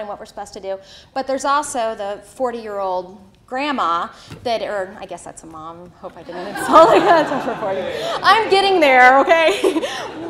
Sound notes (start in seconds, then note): 6.3 audience laughter